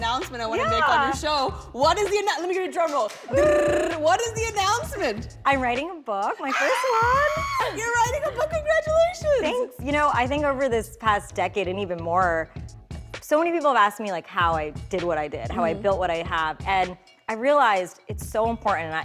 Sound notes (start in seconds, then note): 2.9 mimics drumroll; 6.4 screams